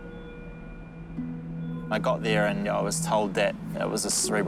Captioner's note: none